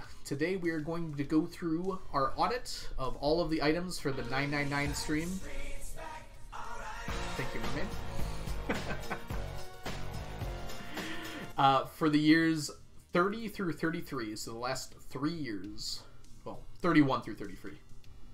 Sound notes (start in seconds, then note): 8.5 laughs